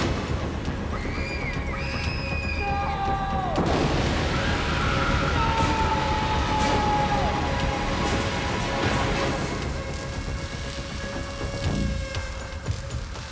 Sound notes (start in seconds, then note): 0.9 screaming; 6.9 tense music